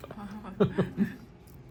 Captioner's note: laughs